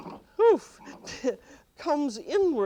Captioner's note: laughs